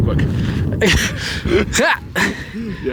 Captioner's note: laughing